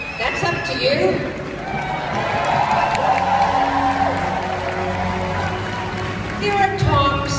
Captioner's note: crowd Applause / Cheers